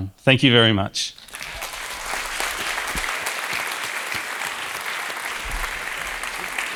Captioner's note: applause